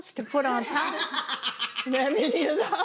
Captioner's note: chef laughs